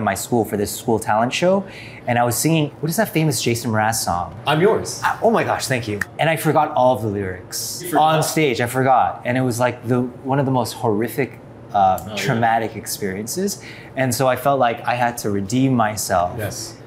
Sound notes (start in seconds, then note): none